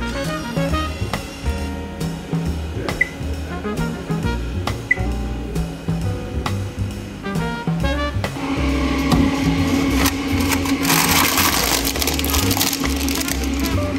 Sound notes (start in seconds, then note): 0.1 machine buzzing; 2.9 buttons beeping; 8.2 machine rumbling; 9.3 drawer squeaking; 9.6 packet rustling